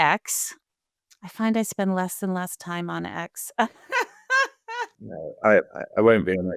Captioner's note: laughing